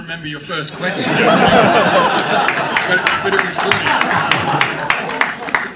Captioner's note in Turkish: kahkahalar